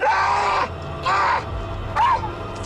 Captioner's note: screaming